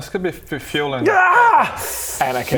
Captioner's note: gaaaahahhh